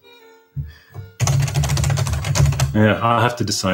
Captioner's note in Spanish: Clinky-Clunky Typing